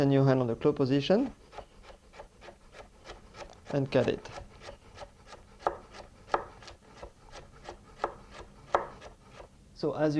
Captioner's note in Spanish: sonido cortando